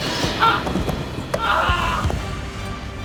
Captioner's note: screams